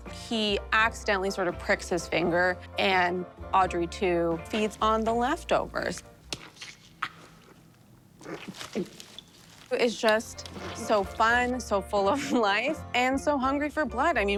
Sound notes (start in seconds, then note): 8.3 Audrey II gulping